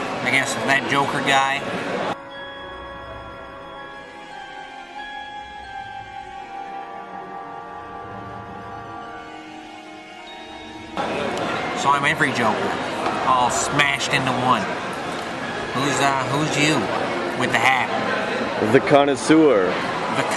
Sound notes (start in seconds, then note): none